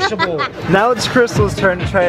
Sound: laughing

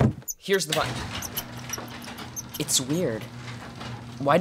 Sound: garage door opens

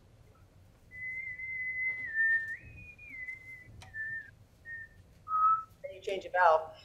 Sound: whistles notes

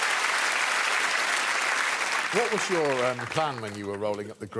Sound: audience clapping

